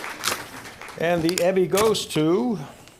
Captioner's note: applause